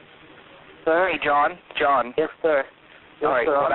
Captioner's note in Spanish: distorsionado